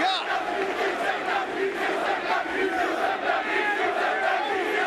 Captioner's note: crowd chanting